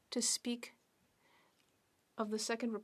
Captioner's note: speaking French